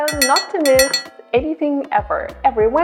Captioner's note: bell clanging